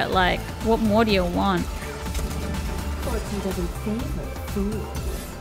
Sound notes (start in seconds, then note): 1.8 gun shots